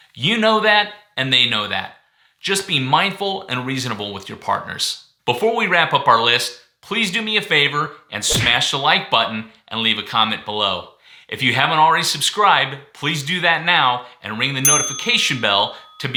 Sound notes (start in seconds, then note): 8.3 smashing sound; 14.6 bell rings